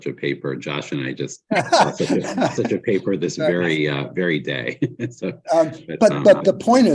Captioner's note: laughs